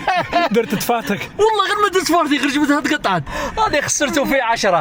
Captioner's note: laughs